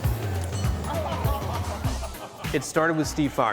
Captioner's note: laughter